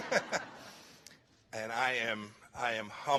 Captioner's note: laughter